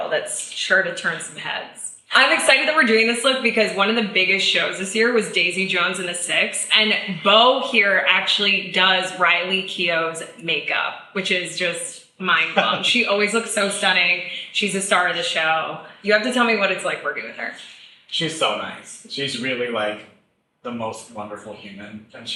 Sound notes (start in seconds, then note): 12.5 chuckles